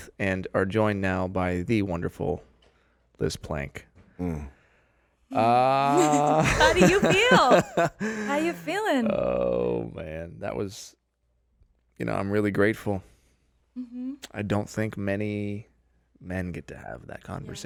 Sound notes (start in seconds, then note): 5.8 loud laughter